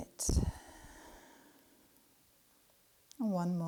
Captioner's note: exhales deeply